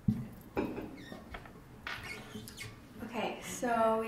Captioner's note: microphone scratching